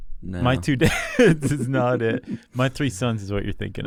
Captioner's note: both laugh